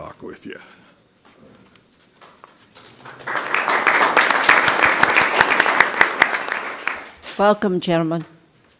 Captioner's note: applause